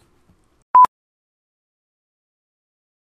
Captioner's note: beep